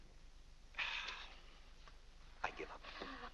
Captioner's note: exasperated sigh